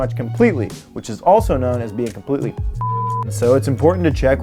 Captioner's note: beep